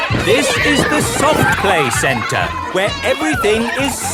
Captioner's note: loudly over shouting